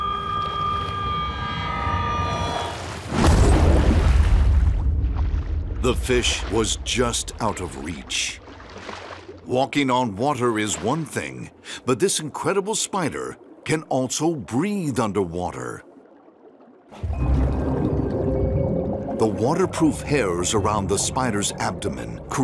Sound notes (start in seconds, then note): 0.0 suspenseful music; 0.3 water splashing; 3.3 dramatic music; 17.1 ominous music; 17.2 water bubbling